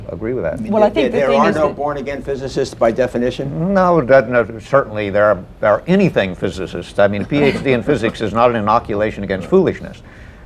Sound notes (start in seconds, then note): 7.1 laughter